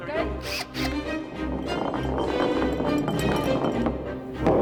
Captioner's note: bottle rolling